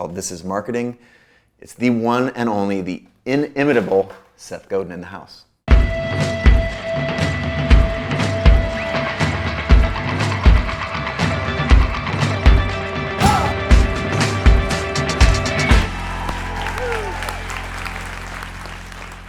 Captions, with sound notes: called "This is Marketing". It's the one and only, the inimitable Seth Godin in the house. (energetic percussion music) (applause)